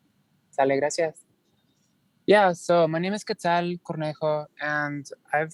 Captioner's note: speaking non-english